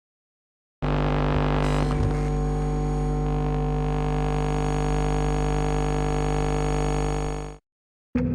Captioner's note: electronic hum and low ambience